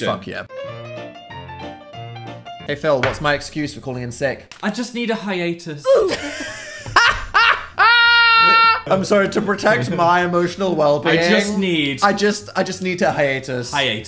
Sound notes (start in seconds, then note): 0.0 jaunty music; 5.9 both laughing